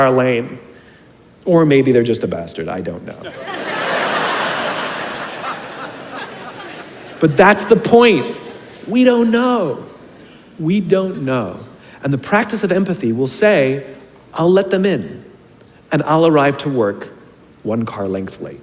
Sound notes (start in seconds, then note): 3.2 众人大笑; 3.2 crowd laughs